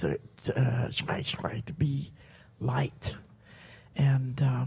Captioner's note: speaks Halkomelem